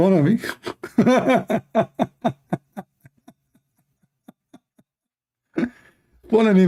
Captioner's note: Ketawa